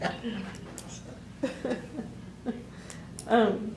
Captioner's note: laughter